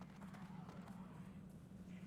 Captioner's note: none